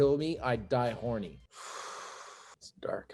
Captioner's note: sighs